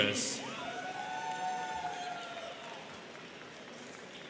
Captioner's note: students cheering